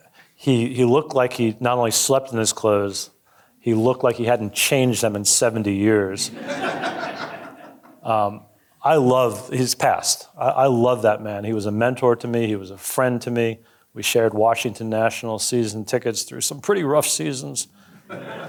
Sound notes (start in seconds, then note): 6.2 audience laughing